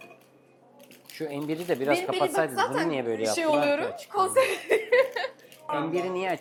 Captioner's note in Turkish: kahkaha